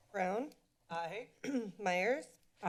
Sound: clears throat

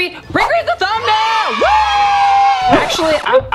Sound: children cheering

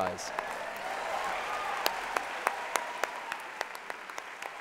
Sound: applause

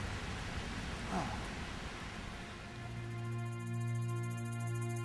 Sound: Marcus sighs; dramatic music

